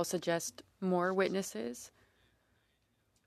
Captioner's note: speaking french